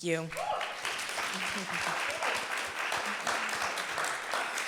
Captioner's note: audience clapping